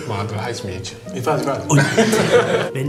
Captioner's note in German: Lachen